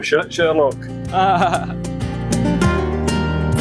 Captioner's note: laughs sarcastically